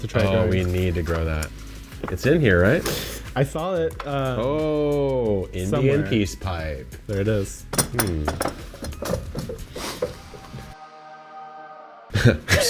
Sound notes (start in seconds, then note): 9.6 sniffs; 10.3 angels singing